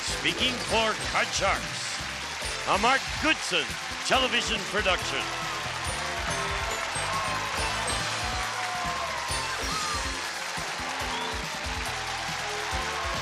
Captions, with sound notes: This is Gene Wood speaking for Card Sharks, a Mark Goodson television production. (audience cheers) (theme music playing)